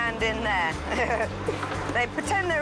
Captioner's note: laughs